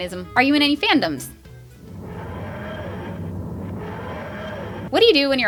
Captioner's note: Tardis whirring